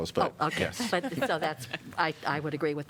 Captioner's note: laughter